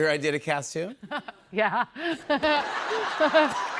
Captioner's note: laughs; laughter, cheers, applause